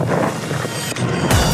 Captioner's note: rustling